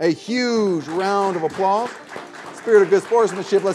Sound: viewers clapping

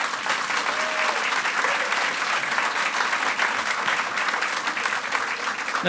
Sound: audience applauds and cheers

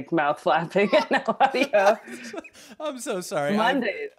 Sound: both laughing

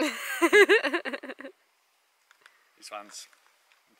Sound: laughing

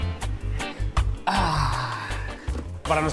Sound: sighs

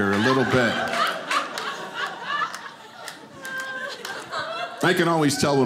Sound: audience laughing

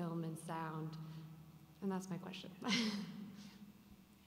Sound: laughs

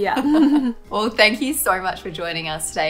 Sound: both laugh

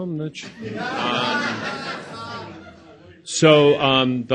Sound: audience laughs

